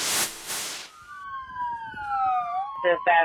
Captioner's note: sirens wailing